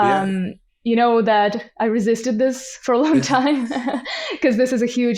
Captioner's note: laughs